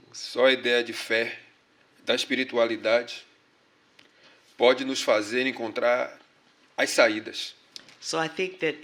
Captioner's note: speaking portuguese